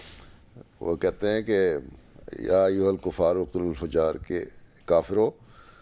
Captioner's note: Arabic